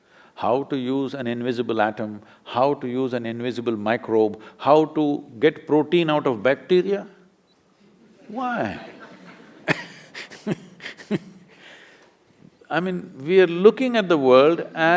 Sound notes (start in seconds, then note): 8.6 laughter; 11.3 laughs